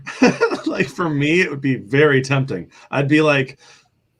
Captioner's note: laughter